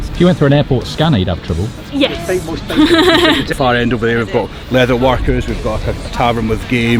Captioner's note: laugh